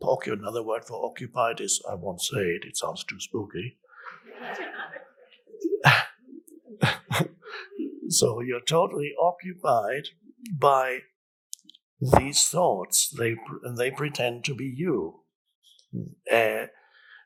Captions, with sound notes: another word for occupied is, I won't say it, it sounds too spooky. (audience laughs) (Eckhart laughs) So you are totally occupied by these thoughts, and they pretend to be you.